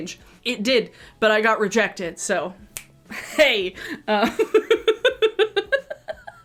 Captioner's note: laughs